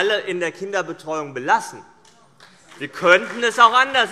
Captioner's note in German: Beifall